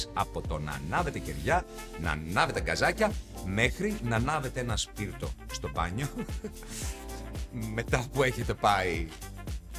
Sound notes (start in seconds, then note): 6.7 laughs